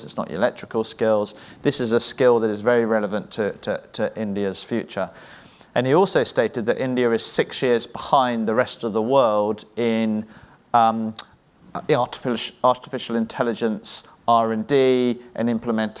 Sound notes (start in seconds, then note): none